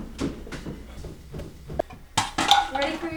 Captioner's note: footsteps